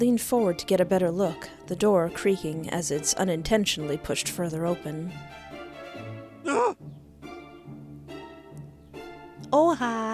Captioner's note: surprised Ghosty Noises